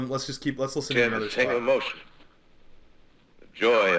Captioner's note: radio